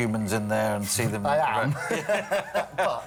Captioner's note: laughs